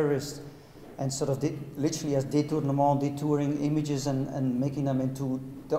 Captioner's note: speaking in a foreign language